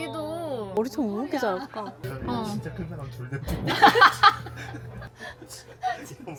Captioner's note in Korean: 웃음